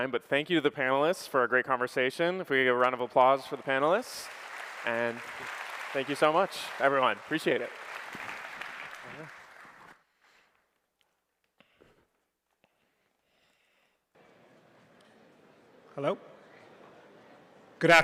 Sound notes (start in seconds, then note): 4.5 applause